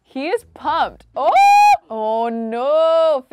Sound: shrieking

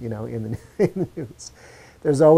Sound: laughs

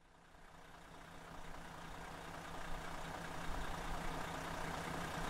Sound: engine on standby

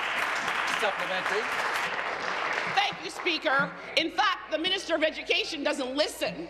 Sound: applause

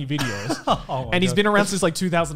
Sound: laughs

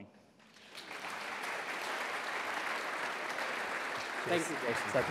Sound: audience applauding

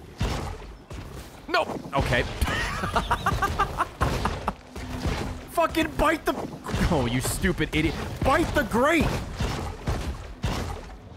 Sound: laughs

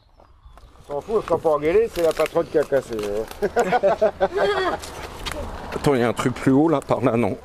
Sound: laughs

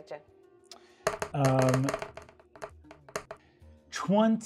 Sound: dice rolling

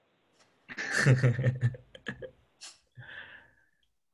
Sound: laughs

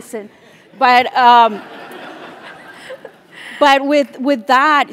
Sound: laugh

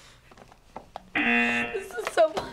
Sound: buzzer

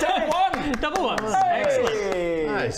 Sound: patronising applause

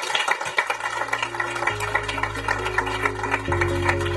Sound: applause

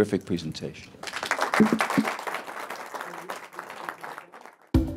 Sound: applause

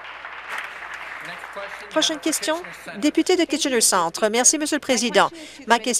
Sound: applause

